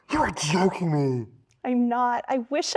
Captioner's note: gasping